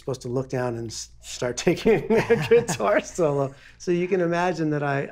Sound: laughing

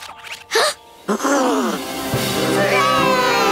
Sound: gasp

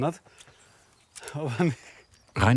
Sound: laughs

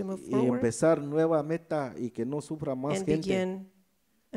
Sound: speaks in foreign language

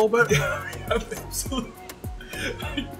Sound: laughs

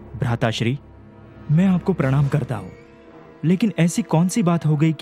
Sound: none

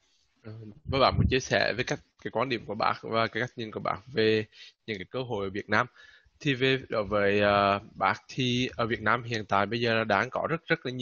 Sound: speaking Vietnamese

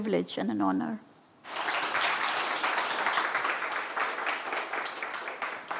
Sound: audience applauds

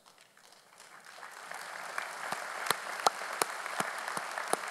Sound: audience applauding

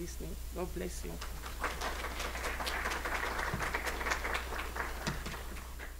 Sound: applause

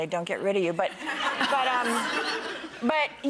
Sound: audience laughs

